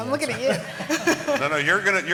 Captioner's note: laughter